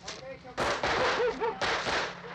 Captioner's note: gun firing